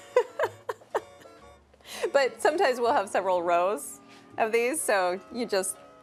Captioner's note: laughs